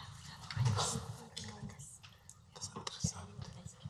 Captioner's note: whispering